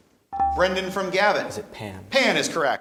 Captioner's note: buzzer chimes